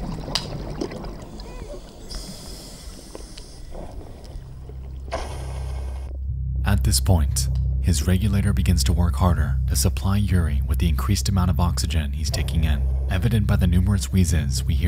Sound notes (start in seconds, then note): 0.0 water burbling; 2.0 inhales deeply